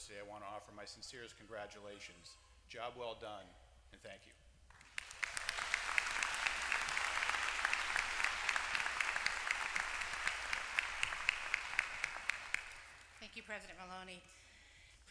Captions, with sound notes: I want to offer my sincerest congratulations. Job well done, and thank you. >> [APPLAUSE] >> Thank you, President Maloney.